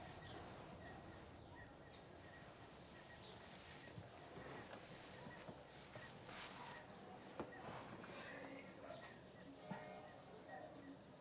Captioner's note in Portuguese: canto de pássaros